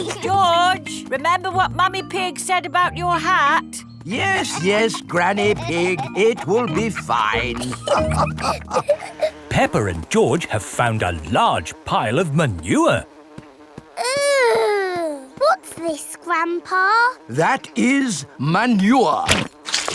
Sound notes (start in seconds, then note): 8.0 all laughing